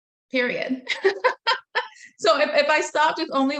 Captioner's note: laughing